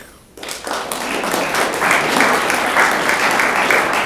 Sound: room applauds

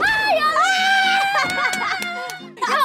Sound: screaming in happiness

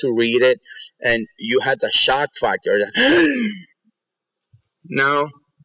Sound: gasp

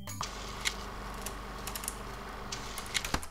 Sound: film projector sound

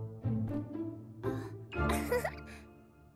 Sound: giggles

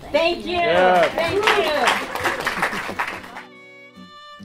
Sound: applause and cheers

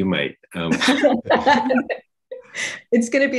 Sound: both laughing

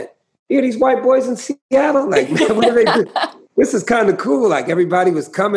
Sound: laughter

